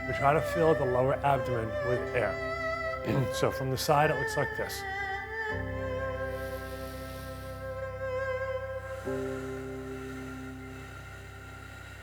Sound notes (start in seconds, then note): 6.2 inhales deeply; 8.8 exhales slowly